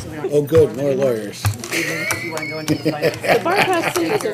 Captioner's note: laughs